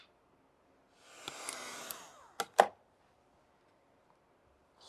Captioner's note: blower whirring